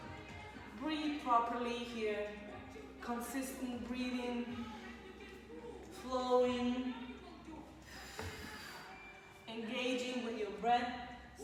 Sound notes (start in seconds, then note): 7.8 exhales